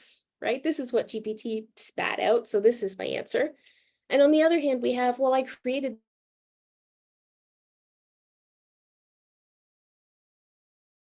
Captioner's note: audio Gap